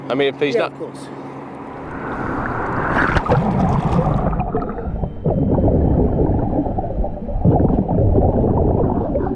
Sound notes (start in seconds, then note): 1.6 water bubbling; 2.4 suspenseful music